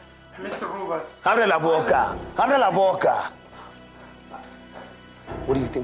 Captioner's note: speaking spanish